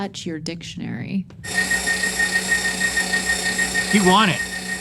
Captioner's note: meat grinder sounds